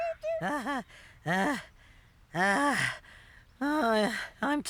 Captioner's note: out of Breath